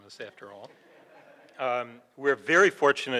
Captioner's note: crowd chuckles